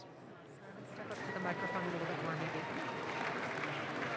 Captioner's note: audience claps